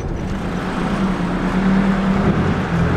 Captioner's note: none